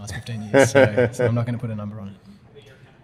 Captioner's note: laughter